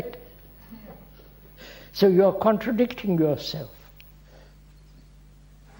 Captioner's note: laughs